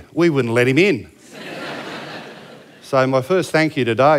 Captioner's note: laughter